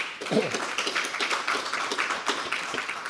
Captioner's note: applause